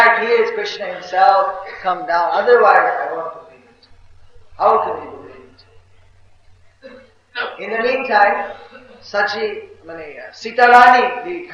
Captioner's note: Devotees laughing